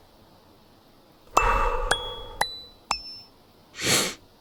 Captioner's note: exhale; ascending pop dings; inhale